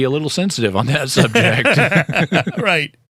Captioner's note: laughter